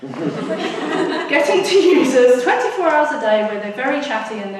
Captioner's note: audience laughs; laughs